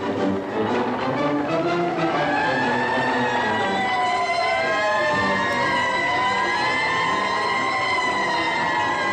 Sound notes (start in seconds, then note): 1.5 sirens